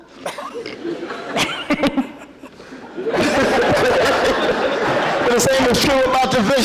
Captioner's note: laughter